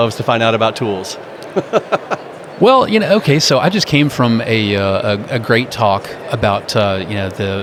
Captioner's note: laughs